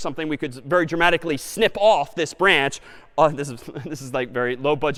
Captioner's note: laughs